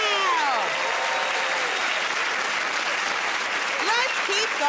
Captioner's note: cheers and applause